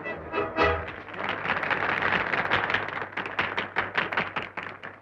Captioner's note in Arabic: الحشد يصفق